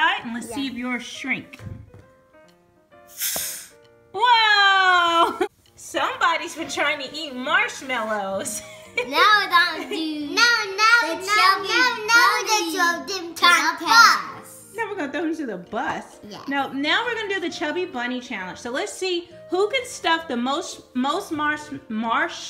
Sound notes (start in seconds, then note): 3.0 air blowing; 14.6 voiceover; 17.2 voiceover